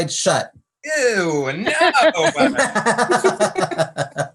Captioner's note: laughs